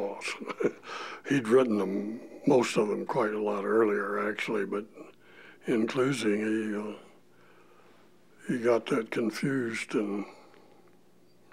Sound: laughter

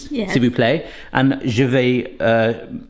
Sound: foreign Language

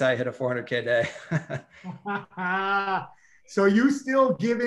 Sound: all chuckles

